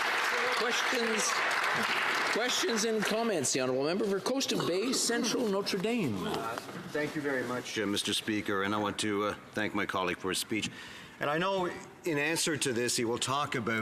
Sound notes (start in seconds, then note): 3.4 some Applause